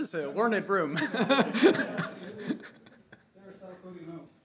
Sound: all laughing

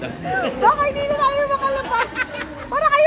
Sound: laughs

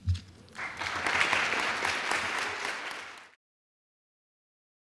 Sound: crowd applauds

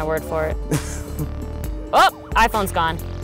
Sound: laughter

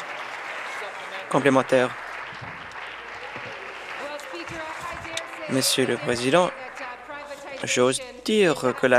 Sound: applause

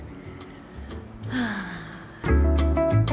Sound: sighs; classy music

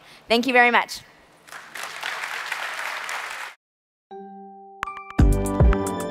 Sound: applause

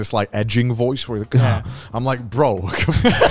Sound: breathes deeply

